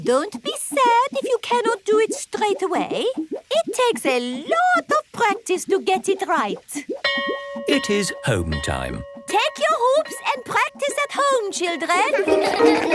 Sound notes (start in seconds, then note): 7.0 bell rings; 12.0 all laugh